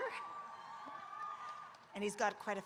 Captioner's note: audience cheering